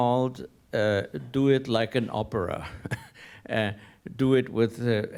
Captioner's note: laughs